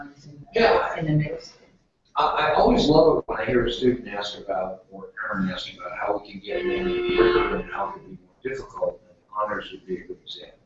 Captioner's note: loud horn